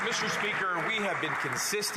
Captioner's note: some Applause